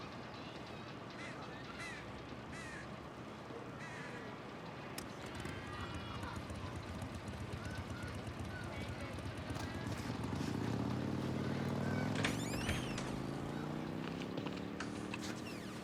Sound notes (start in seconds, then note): 0.2 crow cawing; 0.2 people chattering; 6.0 motorcycle engine revving; 12.1 door creaking